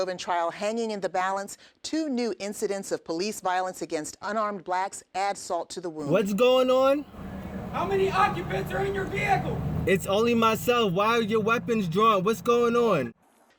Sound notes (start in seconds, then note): 7.9 police shouting